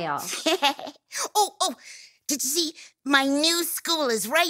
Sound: laughs

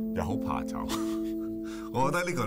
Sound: chuckles

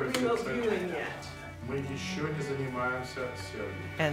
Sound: speaking russian

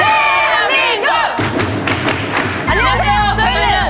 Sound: clap

